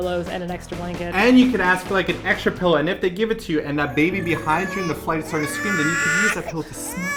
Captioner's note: baby crying